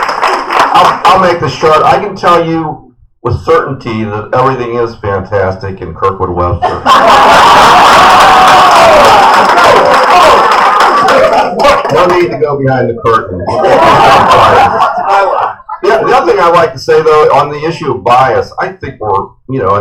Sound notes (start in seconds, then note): 6.6 laughter/applause; 9.5 laughter